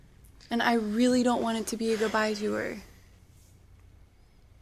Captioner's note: sighs